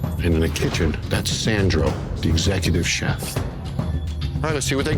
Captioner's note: none